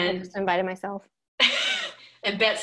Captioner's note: laughing